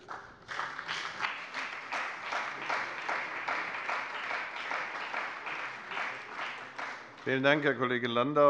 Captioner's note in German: Beifall bei der CDU und dem BÜNDNIS 90/DIE GRÜNEN